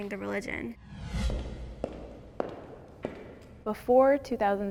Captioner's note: footsteps approaching